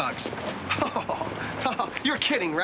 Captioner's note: chuckling